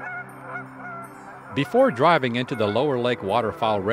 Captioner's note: geese honking